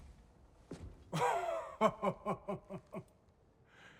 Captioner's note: laughs